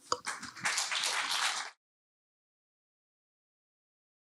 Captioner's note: applause